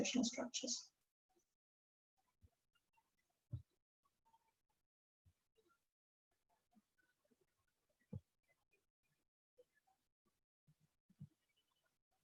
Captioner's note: silence